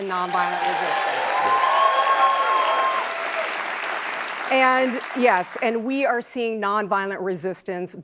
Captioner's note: cheers and applause